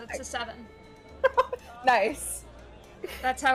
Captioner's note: laughs